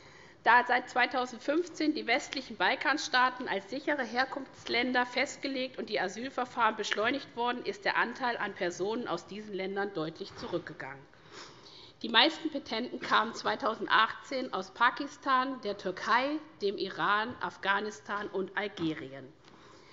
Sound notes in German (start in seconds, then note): none